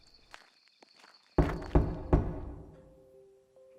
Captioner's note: A knock sounds